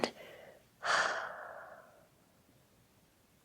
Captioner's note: exhales